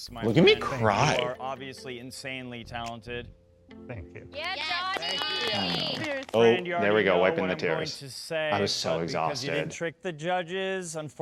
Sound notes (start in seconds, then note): 4.4 all clapping